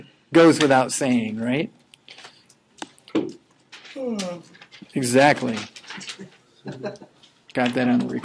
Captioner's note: yawning